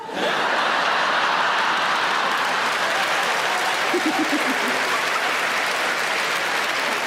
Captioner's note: audience applauding; audience laughing